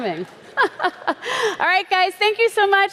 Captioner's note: chuckles